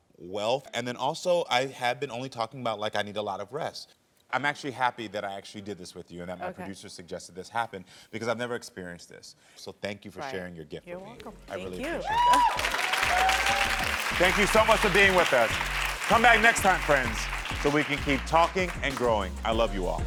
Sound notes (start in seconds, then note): 13.4 audience cheering